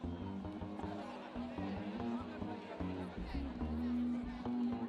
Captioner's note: people chattering